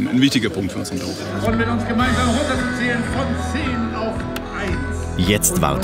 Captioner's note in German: Lautsprecher